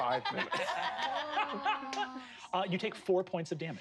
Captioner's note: laugh